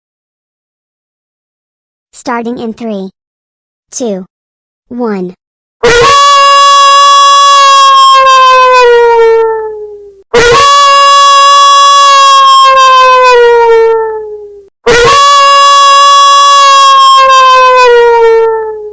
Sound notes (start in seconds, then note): 6.3 loud wolf howling sound effect blaring